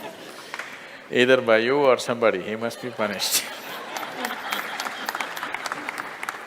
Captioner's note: Smích a potlesk